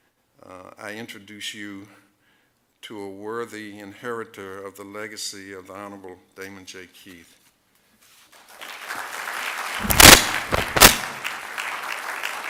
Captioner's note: applause